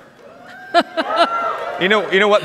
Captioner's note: audience cheers